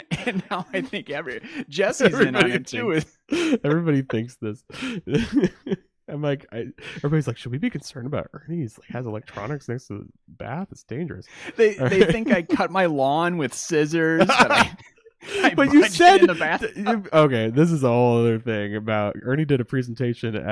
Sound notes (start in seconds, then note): 15.2 laughs